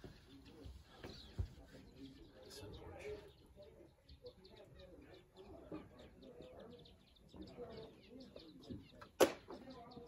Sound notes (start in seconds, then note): 2.2 rocking chair, birds chirping